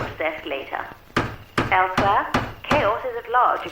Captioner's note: radio Announcer; hammer thudding